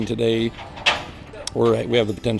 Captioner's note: trailer creaking